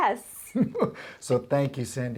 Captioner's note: laughs